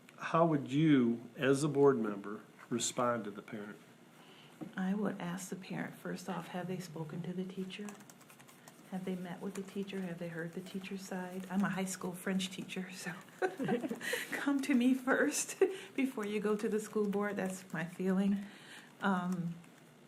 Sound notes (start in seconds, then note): 13.3 laughs